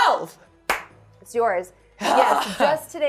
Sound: claps

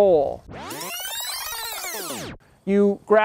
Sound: film rewinds

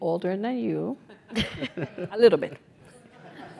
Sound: laugh

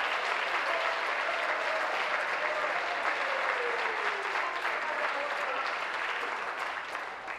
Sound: applause

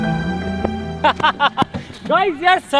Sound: laughing

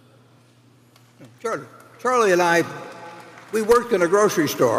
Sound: applause

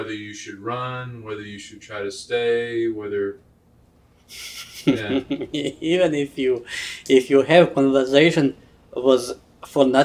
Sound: laughs

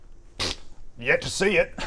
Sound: pfft

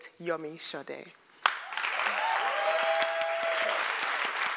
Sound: applause / cheering

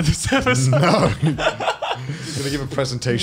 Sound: laughs

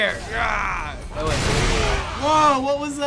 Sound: power burst

